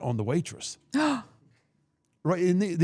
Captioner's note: gasps